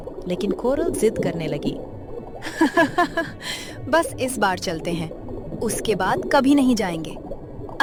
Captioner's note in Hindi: हंसी